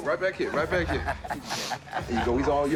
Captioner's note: laughs